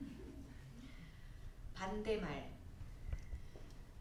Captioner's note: speaking korean